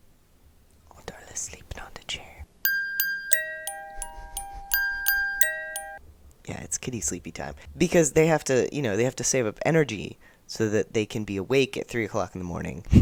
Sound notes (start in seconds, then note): 0.8 whispers; 2.6 lullaby plays